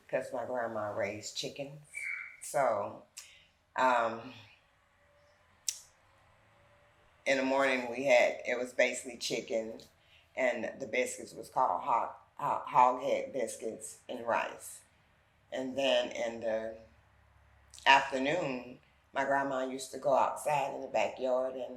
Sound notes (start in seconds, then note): 1.9 bird tweeting